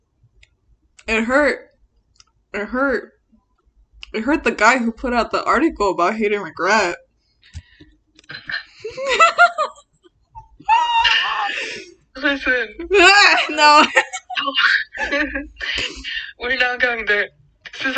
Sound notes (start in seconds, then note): 8.3 laughs; 13.4 both laugh